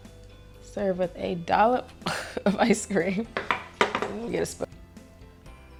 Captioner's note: giggles